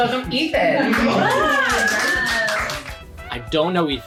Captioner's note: ooos and aahs